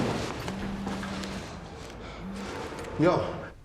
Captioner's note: people running; phone vibrating